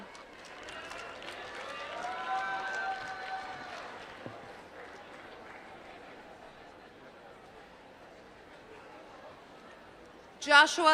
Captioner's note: applause